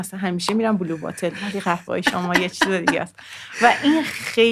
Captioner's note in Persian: خنده